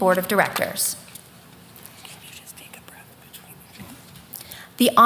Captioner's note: whispering